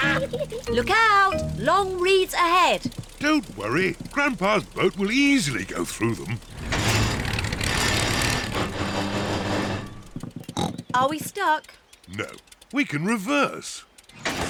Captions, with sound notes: Look out! Long reeds ahead. Don't worry, Grandpa's boat will easily go through them. (CLUNKS AND SPLUTTERS) -(SNORTS) Are we stuck? -No, we can reverse.